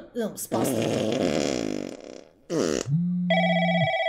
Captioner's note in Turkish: Osuruk sesi